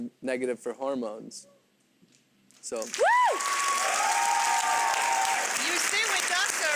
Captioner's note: audience cheers and applauds